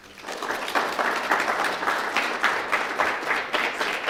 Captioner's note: applause